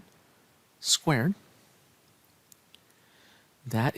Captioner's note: no Speech Detected